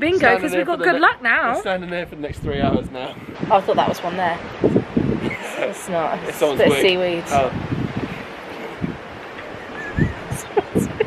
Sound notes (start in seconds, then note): 4.8 wind whistling; 5.2 laughing; 8.0 wind whistling; 9.2 seagulls calling